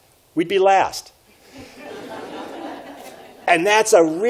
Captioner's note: audience laughs